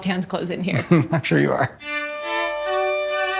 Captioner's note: chuckles